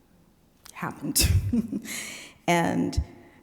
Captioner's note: chuckling